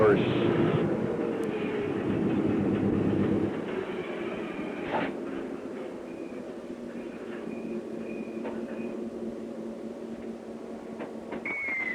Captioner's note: sound of train idling